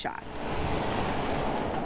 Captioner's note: car cruising